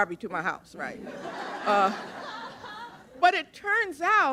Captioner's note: laughter